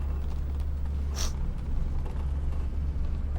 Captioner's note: sniffs